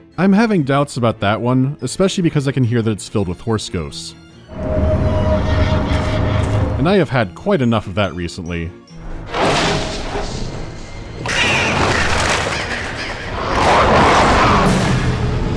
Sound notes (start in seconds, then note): 4.5 ghostly neighing; 11.2 crows going for a loud distraction